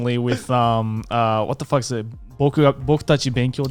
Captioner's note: foreign language